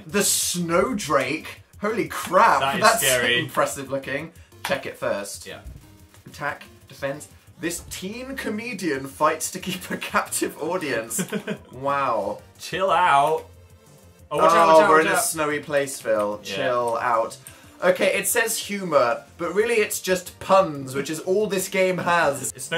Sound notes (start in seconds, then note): 11.1 chuckles